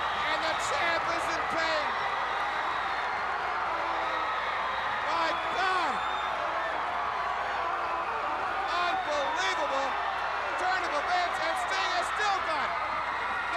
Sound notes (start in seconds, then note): 2.4 crowd cheering; 7.5 Ric yelling